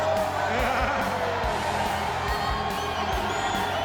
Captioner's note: laughing